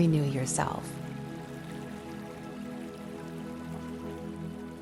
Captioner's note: water trickling